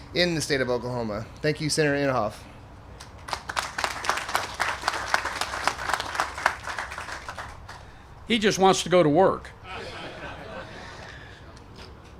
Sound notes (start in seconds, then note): 3.1 applause; 9.6 laughter